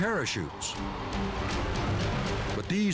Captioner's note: wind whistles